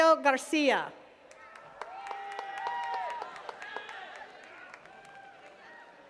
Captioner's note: attendees cheering and clapping